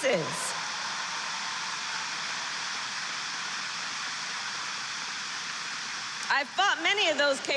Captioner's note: applause